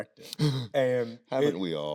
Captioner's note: Tyler laughs